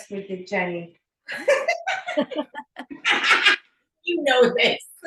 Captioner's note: laughing